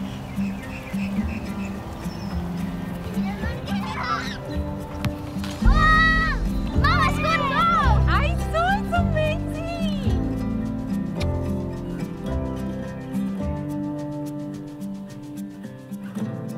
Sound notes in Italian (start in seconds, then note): 2.9 Vocio di bambini